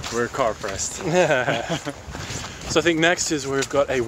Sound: laughs

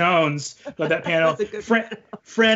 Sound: laughs

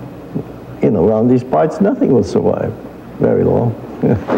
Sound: laugh

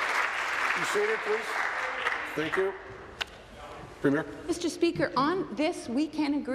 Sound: applause

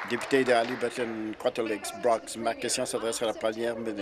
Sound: applause

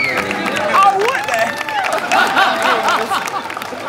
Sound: cheering

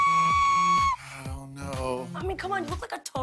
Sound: shrieks; sighing

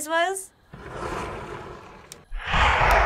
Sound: window slides open; ominous whoosh

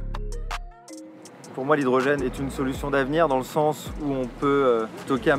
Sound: speaks in foreign language

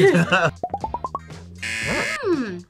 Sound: both laugh; buzzer

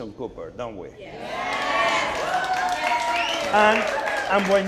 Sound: audience applauding

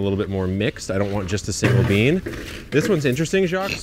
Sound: table clanks

